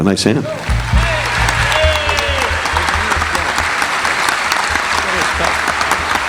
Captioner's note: audience cheering; audience applauding